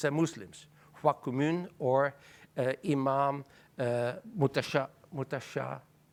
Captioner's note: speaking in foreign language